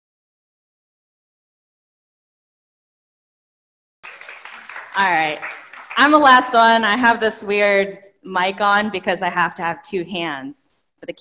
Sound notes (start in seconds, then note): 4.0 audience clapping